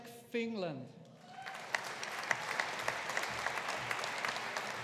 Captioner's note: audience applauding